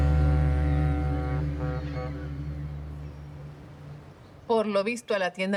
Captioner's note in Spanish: Bocina del barco